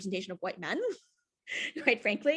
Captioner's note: chuckles